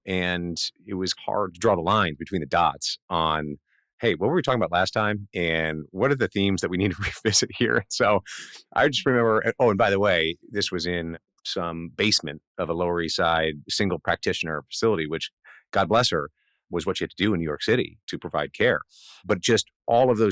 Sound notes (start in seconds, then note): 6.9 laughs